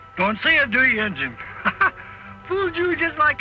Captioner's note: laughs